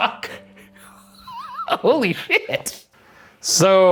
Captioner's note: laughs